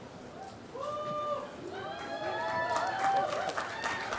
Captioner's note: applause